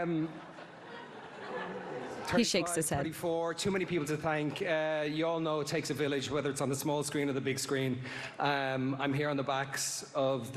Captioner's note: laughter